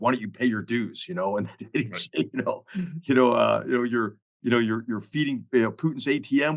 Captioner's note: laugh